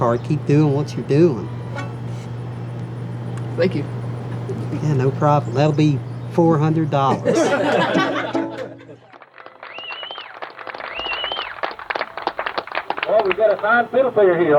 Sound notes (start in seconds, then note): 7.0 all laughing; 11.0 audience cheers and applauds